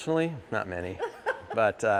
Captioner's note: laughing